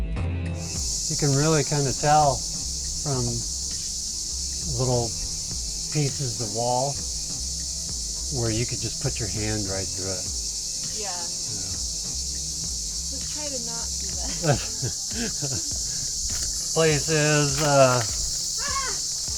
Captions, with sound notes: You can really kind of tell from from the little pieces of wall... Where you can just put your hand right through it. Yea. Let's try to not do that. (Chuckle) Place is.. uh... AHHHH!!